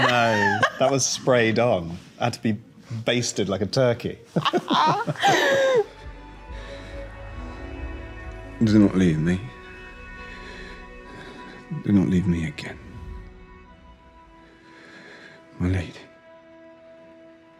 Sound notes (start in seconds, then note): 4.3 both laughing